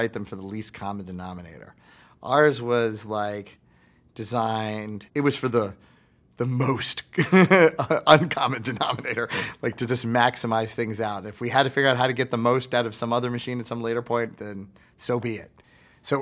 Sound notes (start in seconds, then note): 7.2 laughs